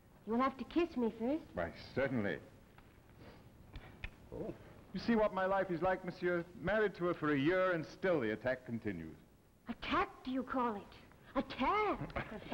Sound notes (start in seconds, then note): 3.6 kissing sounds